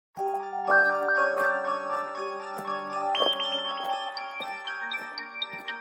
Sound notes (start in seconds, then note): 0.1 alien footsteps thumping; 0.2 eerie music